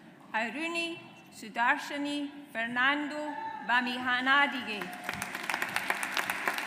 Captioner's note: audience applauds